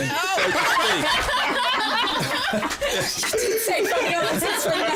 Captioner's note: laughter